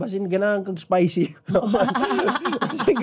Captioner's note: laughing